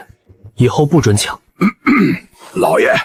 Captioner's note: cough cough